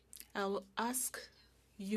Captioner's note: speaking French